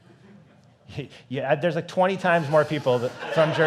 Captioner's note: chuckles